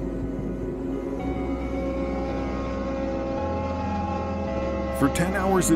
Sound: machine whirring

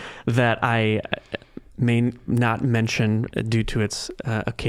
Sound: chuckling

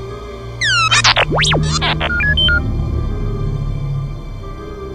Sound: electronic beeps

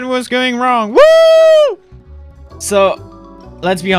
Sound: cheering

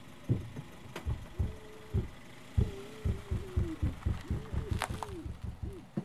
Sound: car engine rumbling over muffled shouting and pounding

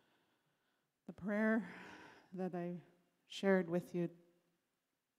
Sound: in English

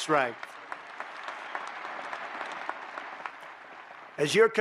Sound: applause

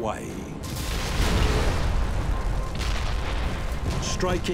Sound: bombs exploding

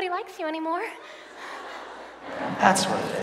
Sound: audience laughs

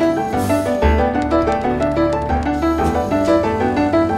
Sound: gentle exciting music; lift whirring; machinery whirring

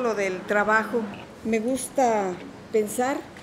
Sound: speaking in Spanish

